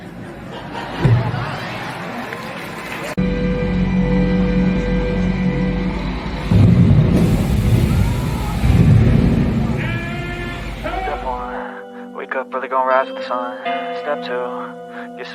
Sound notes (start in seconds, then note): 0.0 audience laughter; 6.2 explosion; 11.1 intro Music